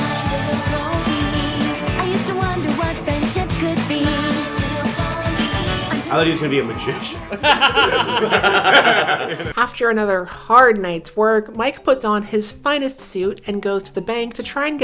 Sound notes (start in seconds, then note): 8.7 laughter